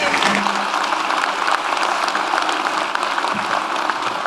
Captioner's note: audience applauds